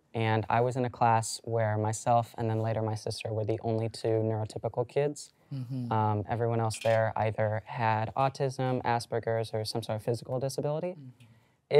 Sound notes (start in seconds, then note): none